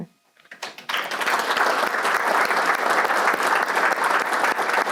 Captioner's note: audience applauds